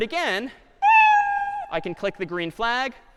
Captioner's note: cat meowing